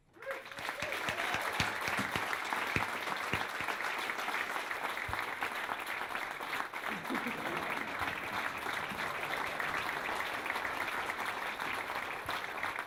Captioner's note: applause